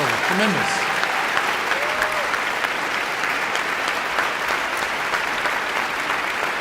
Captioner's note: audience cheering and applauding